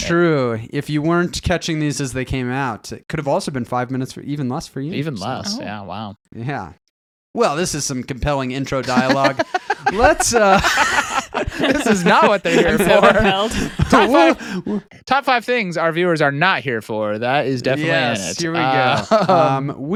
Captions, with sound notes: - True, if you weren't catching these as they came out, it could have also been five minutes, even less for you. - Even less, yeah, wow. - Yeah. Well, this is some compelling intro dialogue. (laughing) Let's, this is not what they're here for. - To who? Top five things our viewers are not here for, that is definitely it. - Yes, here we go.